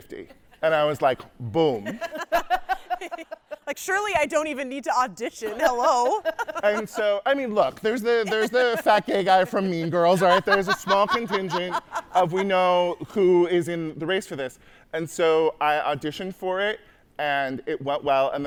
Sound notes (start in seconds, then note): 1.0 hosts laughing